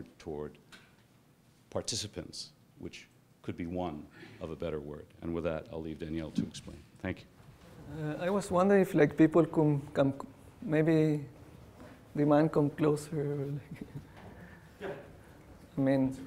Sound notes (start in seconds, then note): 13.5 chuckles